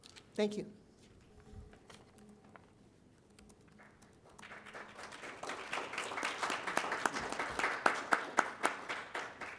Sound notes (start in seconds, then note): 4.2 applause